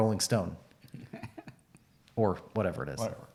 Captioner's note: laughs